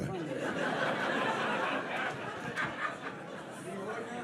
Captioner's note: audience laughs